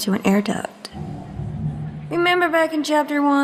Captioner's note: air duct clanging